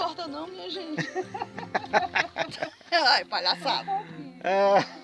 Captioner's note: laughs